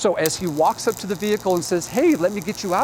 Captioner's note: electricity crackles